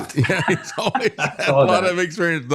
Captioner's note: laughing